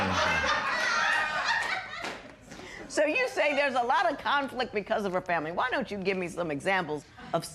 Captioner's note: laughter